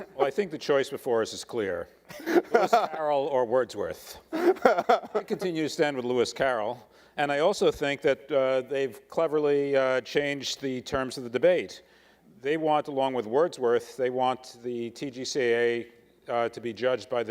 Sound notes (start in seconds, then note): 4.3 laughing